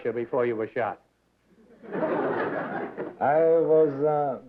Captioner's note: laughter